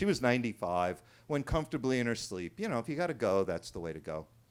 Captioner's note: none